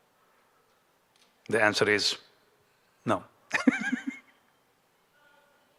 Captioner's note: chuckles